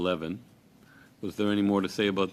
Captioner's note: speaking French